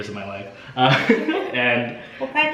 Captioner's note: laughs